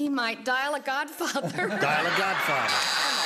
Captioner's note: buzzer sounds